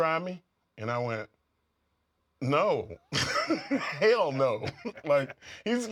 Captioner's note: laugh